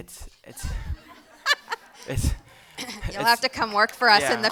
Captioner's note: audience laughing